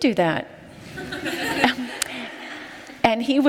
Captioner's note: laughter